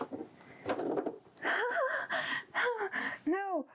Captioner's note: nervous laughter